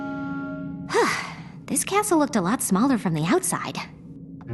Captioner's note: sigh